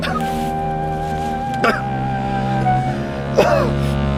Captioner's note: coughing